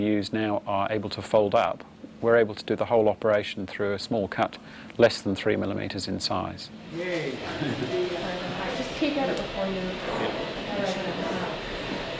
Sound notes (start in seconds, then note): 7.0 chatter